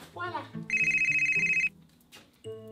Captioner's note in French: Le téléphone sonne